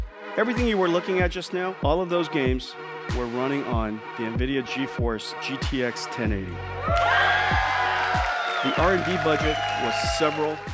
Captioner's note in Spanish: Vítores